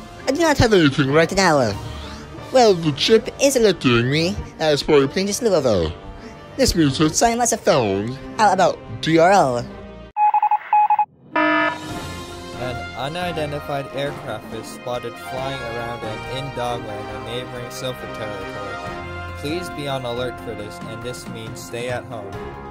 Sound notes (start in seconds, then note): 11.3 morse code; 11.3 alarm